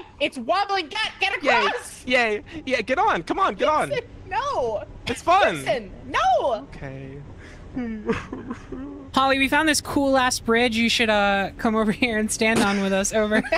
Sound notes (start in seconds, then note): 7.8 cries